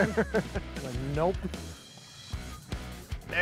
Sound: laughs; upbeat instrumental music

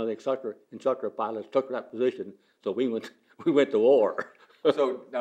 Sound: laughs

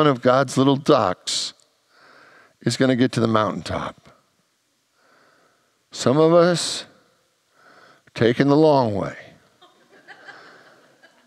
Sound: congregants laugh

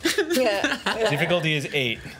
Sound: laughs

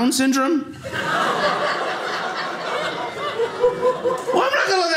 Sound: audience laughing

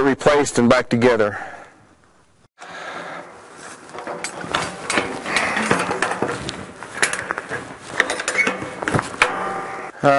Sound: pipe clamp rattle

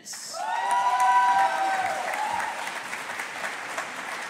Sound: audience applauding

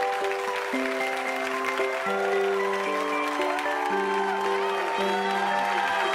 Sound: audience cheering and applauding

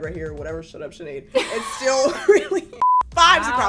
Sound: all laughing

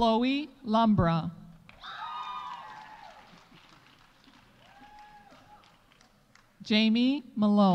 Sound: audience cheering; audience applauding

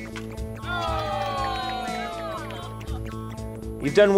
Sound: aliens cheering

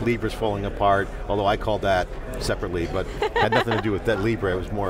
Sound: laughing

